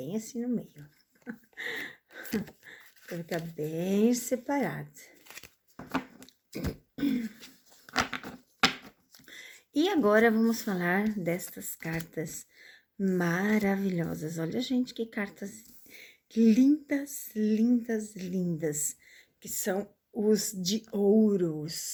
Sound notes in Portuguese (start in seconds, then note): 1.2 risadas; 6.5 limpando a garganta